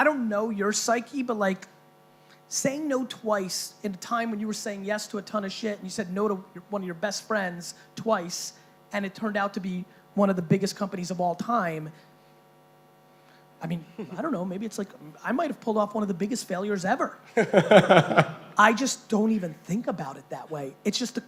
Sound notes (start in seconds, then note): 17.3 laughing